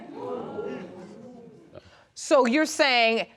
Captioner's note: audience gasping